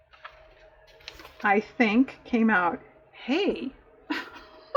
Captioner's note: laughs